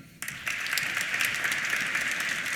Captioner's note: applause